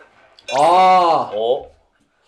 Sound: A loud reaction

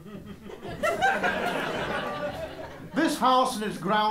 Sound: laughter

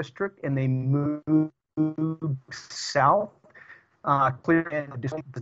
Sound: audio corruption

